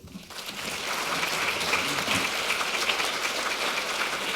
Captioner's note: audience applauding